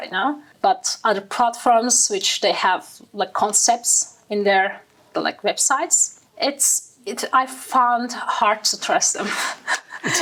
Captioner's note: laughing